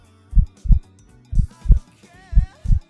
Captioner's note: Tobey's heartbeat